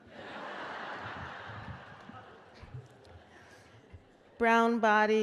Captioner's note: laughter